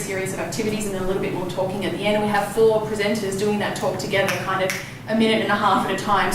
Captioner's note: snap snap